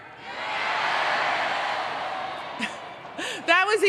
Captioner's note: crowd